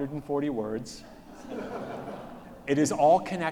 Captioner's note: audience laughs